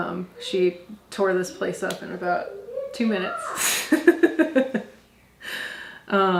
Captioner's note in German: lacht